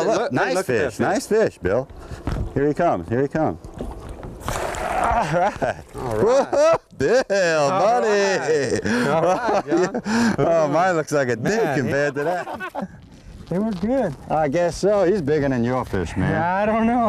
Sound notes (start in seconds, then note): 4.3 splash; 8.3 laughter